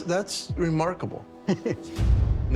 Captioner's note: chuckles